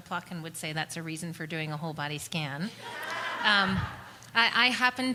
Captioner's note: laughter